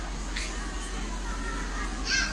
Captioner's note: none